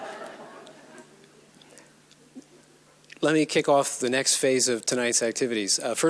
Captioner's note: audience laughs